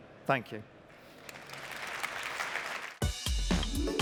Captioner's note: applause